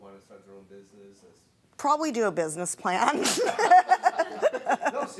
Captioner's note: laughing